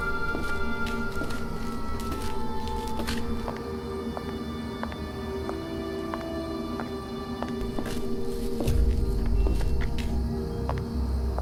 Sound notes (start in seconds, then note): 3.8 footsteps; 7.7 suspenseful music